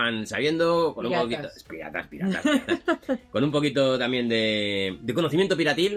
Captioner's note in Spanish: risas